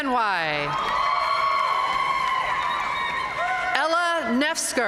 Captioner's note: audience cheering and applauding